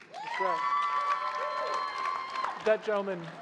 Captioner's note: crowd applauding